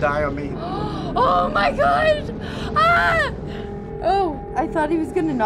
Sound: gasps

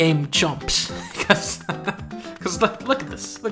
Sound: laugh

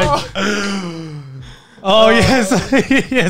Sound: laughing

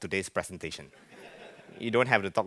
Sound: laughing

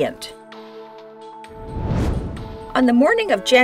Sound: whoosh

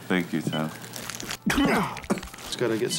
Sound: coughing

